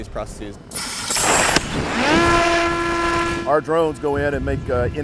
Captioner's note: air pressure releasing, engine revving